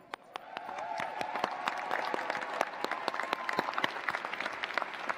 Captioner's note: cheers, applause